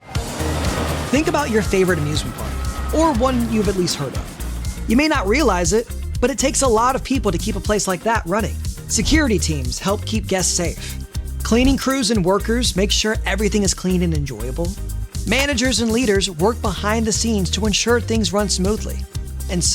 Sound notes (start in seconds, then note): 0.0 upbeat music; 0.1 rollercoaster roaring